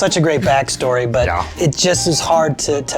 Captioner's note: in puppet voice